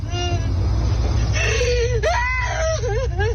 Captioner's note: crying